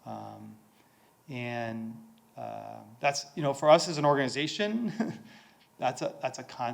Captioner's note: chuckles